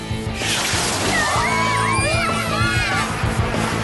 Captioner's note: cheers